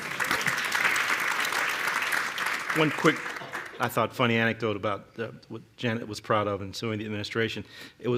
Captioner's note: applause